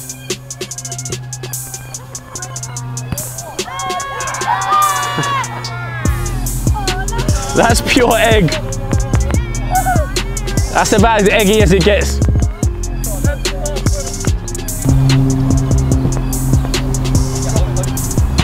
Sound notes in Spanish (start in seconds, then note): 0.1 música lenta de hip hop; 3.8 vítores de la multitud